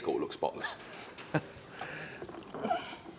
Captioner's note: laughs